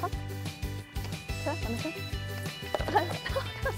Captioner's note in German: Sie spricht leise